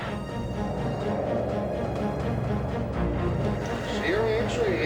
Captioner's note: airplane engines whirring